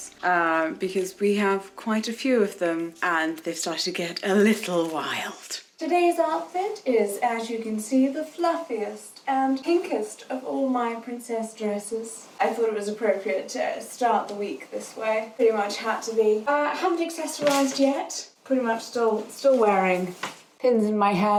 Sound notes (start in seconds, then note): 17.4 plant frond crashes